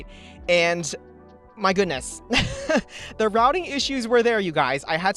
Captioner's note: laughs